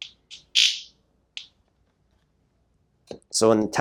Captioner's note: zap